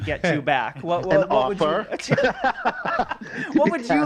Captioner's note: laughs